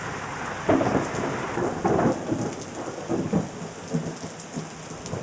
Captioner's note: thunder rumbling